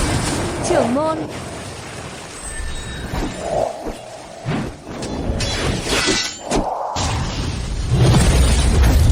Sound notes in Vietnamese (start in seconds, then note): 4.1 rên rỉ